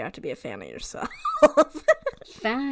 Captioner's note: laughs